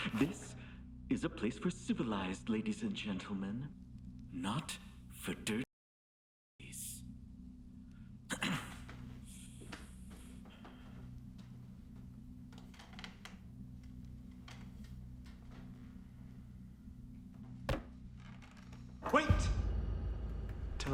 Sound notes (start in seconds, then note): 8.3 throat clearing